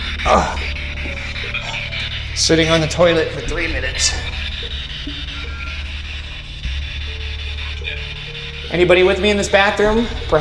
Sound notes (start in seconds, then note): 4.9 spirit Box buzzing